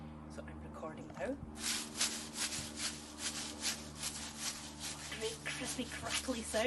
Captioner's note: rustling sound